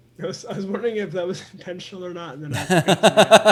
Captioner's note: laughing; laughs